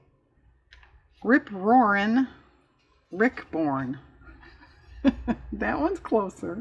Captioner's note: laughs